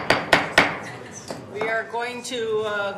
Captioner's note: gavel bangs